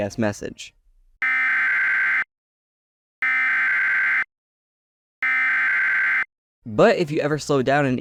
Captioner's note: three low-pitched beeps